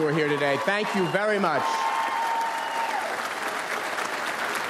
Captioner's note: audience applauds